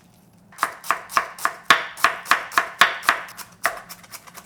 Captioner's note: knife tapping